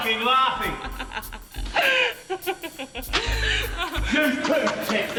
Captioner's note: host laughing